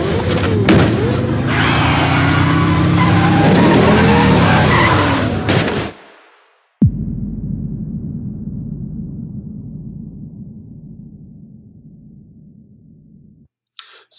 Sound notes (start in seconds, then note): 0.0 tires screeching